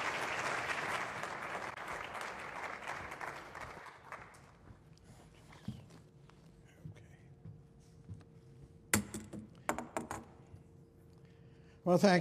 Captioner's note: applause